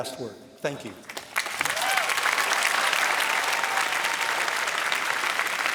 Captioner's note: applause